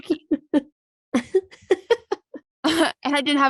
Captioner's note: laughing